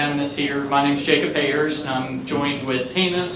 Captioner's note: crowd talking indistinctly